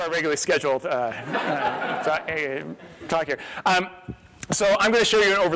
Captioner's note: laughter